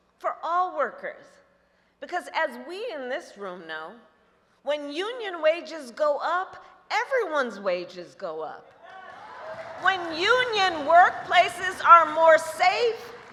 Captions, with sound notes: for all workers -- because, as we in this room know, when union wages go up, everyone's wages go up. (Applause.) When union workplaces are more safe,